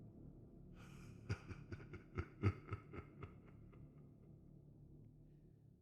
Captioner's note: laughter